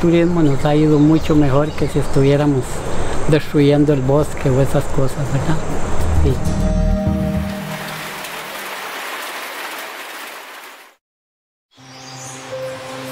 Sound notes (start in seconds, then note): 7.0 rain falls